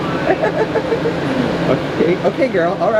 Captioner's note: laughs